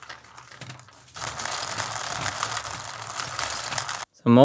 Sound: marbles rolling

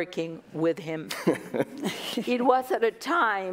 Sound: laughter

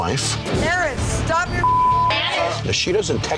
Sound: beep

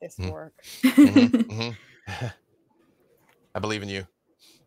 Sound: laughing

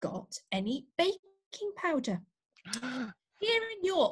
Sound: gasps

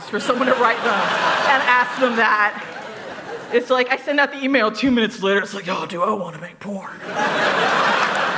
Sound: laughter

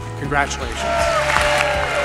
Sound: applause and cheers

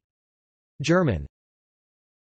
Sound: German

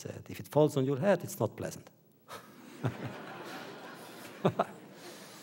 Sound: laughter

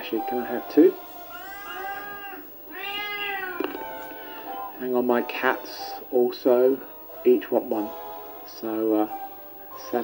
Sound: cats meowing

